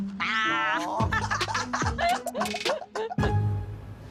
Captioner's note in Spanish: Risas